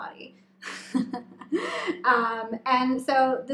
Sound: laughing

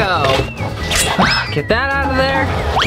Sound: whistle sliding; swords unsheathing

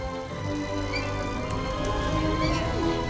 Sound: machinery squeaking; elf 4 smacks lips

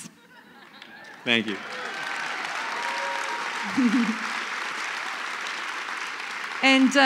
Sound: laughter; applause

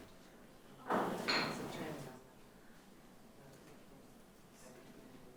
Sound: people chattering faintly

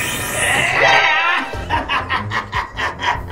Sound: Chameleon laughs wickedly

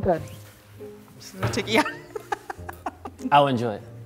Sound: chuckling

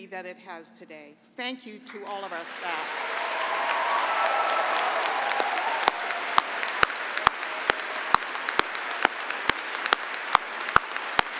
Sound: cheering and applause

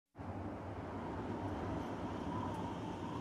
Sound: wind

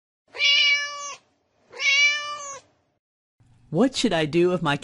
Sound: meow

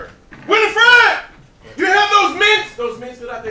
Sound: shouting

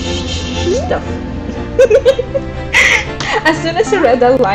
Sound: laughs

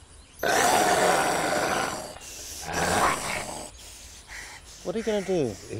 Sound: growls

